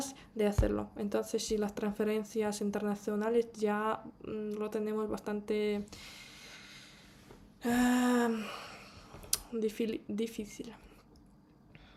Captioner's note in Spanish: suspiro